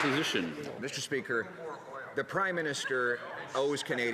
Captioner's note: some Applause